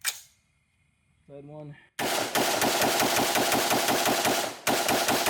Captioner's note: rapid firing